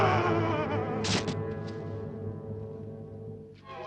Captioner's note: Ben screams; Ben thuds